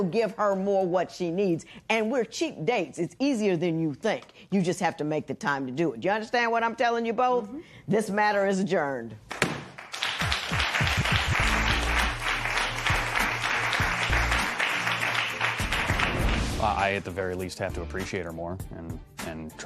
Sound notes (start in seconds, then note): 9.5 gavel bangs; 9.6 applause